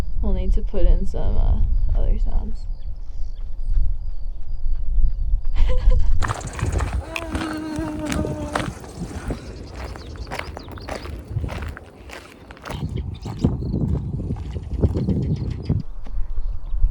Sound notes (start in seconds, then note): 3.7 light footsteps; 7.0 man quietly hollering; 8.8 footsteps on gravel